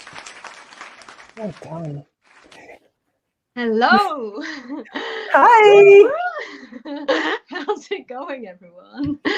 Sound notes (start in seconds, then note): 0.0 audience clapping; 6.3 laughter